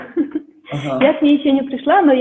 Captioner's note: laughs